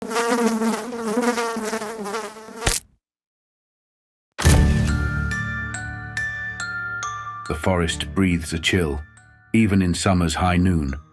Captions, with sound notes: (fly buzzing) (fly splatting) (creepy music) The forest breathes a chill, even in summer’s high noon.